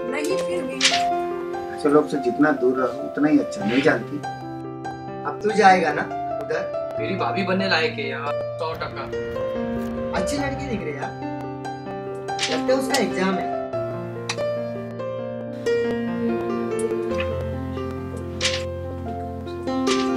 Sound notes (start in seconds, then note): 18.2 flipping pages